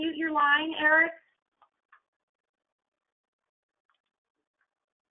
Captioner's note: silence